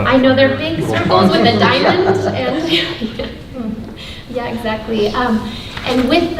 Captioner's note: laughs